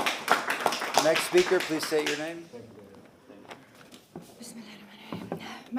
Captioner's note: applause